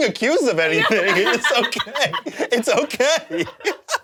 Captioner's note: laughs